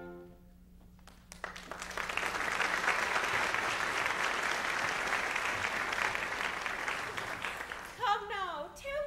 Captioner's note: applause